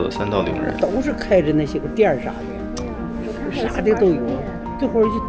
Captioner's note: using Northeastern Chinese dialect